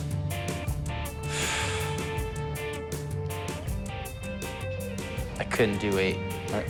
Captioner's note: sighs